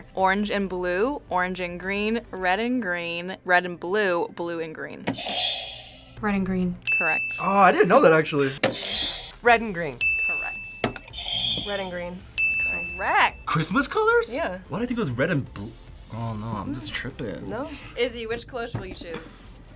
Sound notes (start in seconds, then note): 6.8 bell rings; 6.9 buzzer rings; 10.0 bell rings; 10.0 buzzer rings; 12.3 bell rings